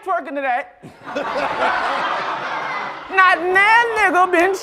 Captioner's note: laughter